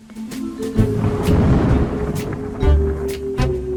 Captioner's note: gentle music; thunder roaring; gentle music continues